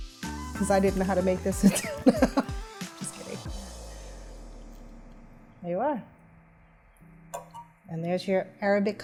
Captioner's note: laughs